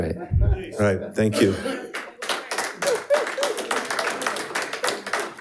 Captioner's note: audience applauding